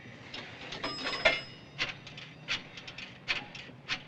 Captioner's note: bell dings